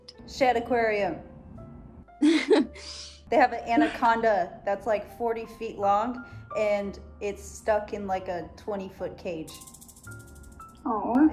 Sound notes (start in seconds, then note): 2.2 laughs